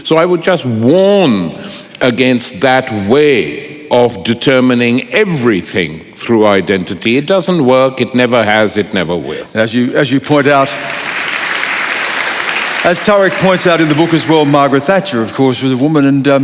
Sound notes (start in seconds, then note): 10.4 applause